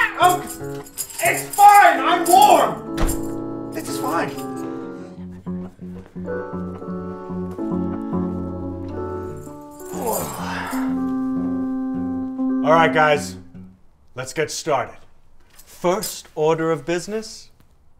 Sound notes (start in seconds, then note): 2.9 slam; 9.9 heavy sigh